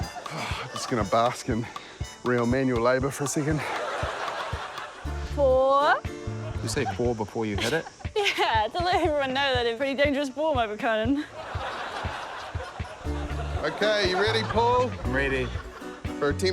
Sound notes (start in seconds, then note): 7.5 laughs